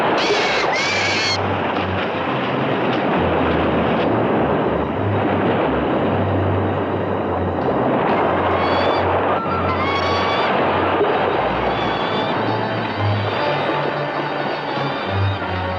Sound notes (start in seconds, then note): 0.2 bird squawking; 0.2 suspenseful music; 9.7 bird squawking; 11.8 suspenseful music continues